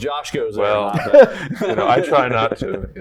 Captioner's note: laughs